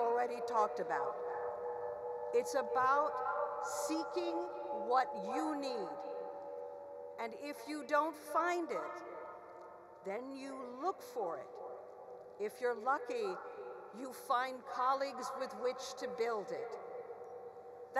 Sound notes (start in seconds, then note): none